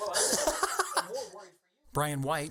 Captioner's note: laughs